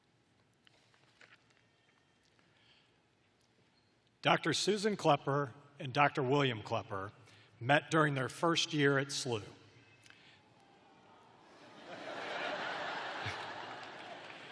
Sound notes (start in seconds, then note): 6.0 laughter